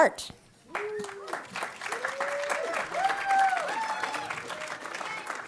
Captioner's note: audience applauding